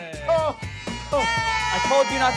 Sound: girls cheering

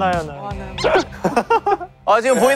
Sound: laughing

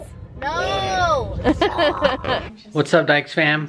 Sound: laughs

